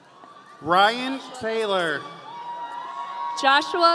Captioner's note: audience cheering